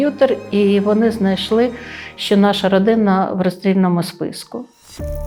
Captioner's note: Russian